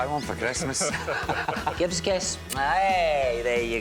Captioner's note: laughs